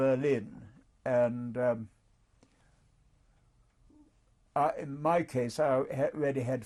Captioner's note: pauses for 3 seconds